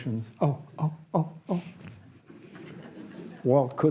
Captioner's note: audience laughs